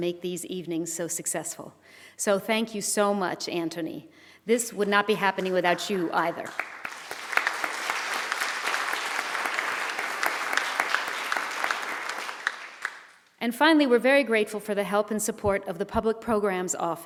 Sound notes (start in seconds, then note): 7.2 applause